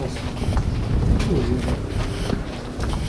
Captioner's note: spits on the ground